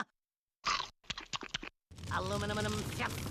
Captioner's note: chomping